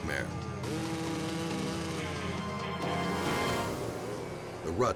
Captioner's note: engine roars